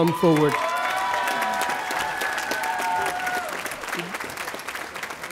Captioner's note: audience applauding